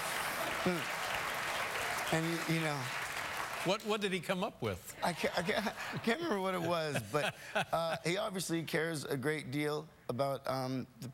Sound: applause; laughter

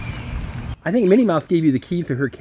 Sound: voiceover

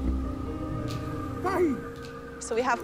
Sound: chanting

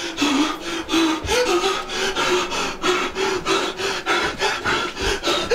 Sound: breathes in and out loudly

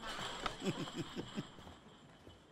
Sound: chuckles

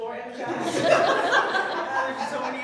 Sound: audience laughing

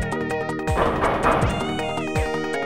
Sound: knocking

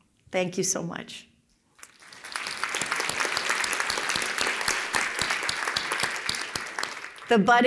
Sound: applause

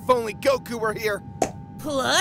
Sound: pop

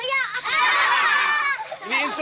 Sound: children laughing

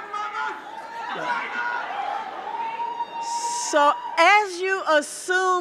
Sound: audience cheering

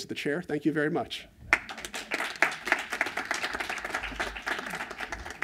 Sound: applause

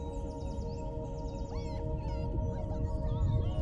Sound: muffled shouting

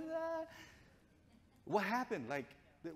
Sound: speaking gibberish

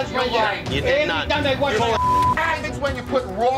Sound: beep

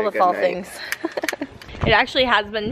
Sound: chuckles

